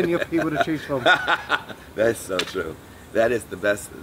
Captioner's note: laughs